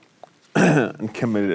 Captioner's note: clears throat